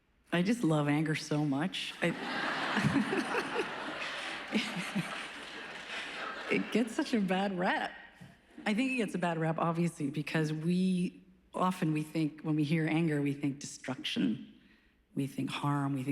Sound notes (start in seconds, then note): 2.0 laughing